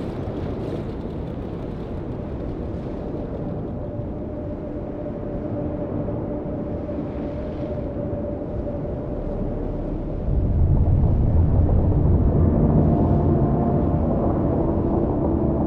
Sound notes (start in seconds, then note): 5.6 soft humming; 12.3 tense brooding music